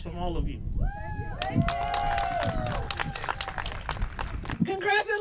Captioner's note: applause